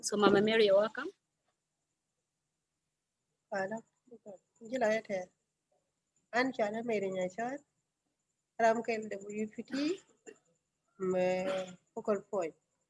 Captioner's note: speaking in another language/ Interpretation